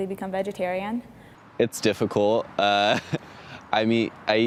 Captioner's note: laughs